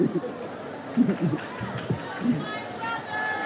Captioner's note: audience laughs